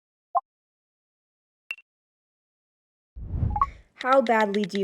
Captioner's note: digital beeping